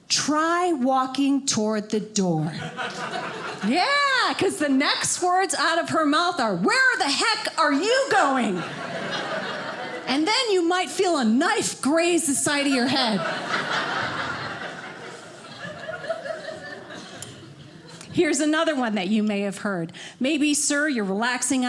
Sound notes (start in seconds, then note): 12.8 audience laughing